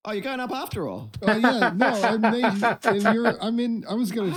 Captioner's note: laughing